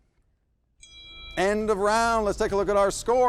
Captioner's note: loud chime